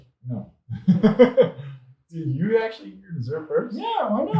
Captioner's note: laughs